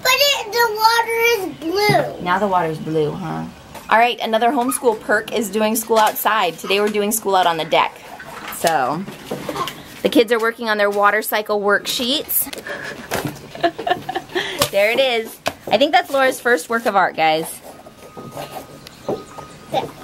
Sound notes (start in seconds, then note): 12.6 laughs